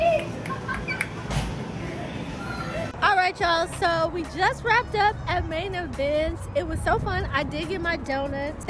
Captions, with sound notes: (laughing) All right, y'all, so we just wrapped up at Main Event. It was so fun. I did get my donuts.